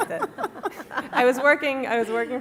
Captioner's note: laughter